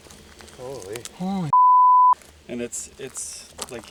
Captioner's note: beep